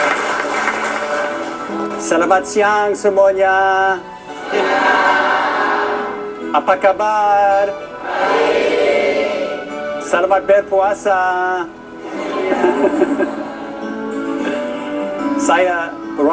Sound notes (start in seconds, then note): 7.5 non-english speech